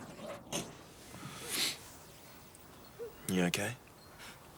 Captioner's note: John sniffs